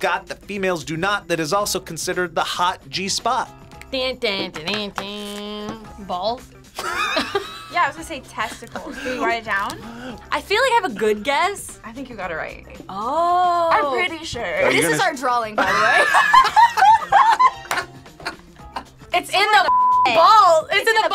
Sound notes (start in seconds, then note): 6.8 both laugh; 15.6 both laugh